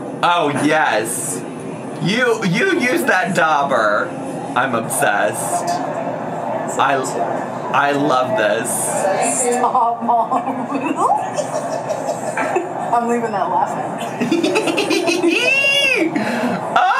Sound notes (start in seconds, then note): 11.2 Amberlynn's mom laughs; 14.1 laughs